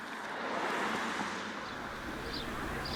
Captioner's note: birds chirping; engines humming